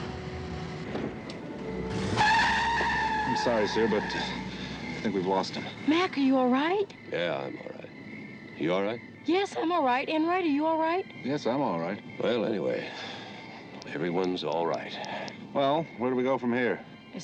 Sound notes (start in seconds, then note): 2.1 tires screeching